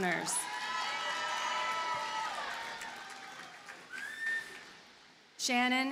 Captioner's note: audience cheers and applauds